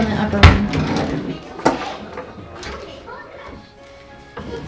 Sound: drawer slides open

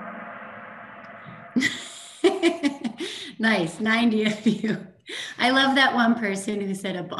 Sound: laughs

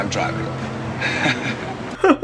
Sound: Mitch awkwardly laughs

